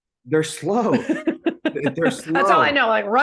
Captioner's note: person laughing